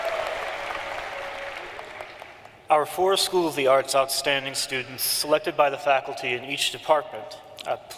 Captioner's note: cheering and applause